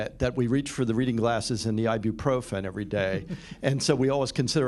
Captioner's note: laughter